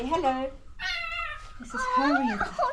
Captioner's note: meow